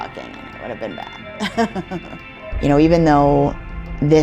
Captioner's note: laughs